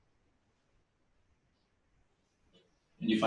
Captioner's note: pause